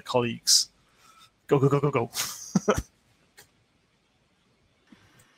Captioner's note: laughing